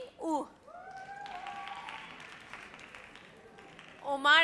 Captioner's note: audience cheers